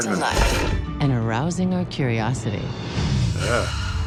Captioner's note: voice-over